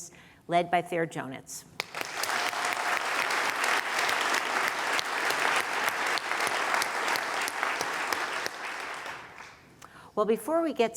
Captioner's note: applause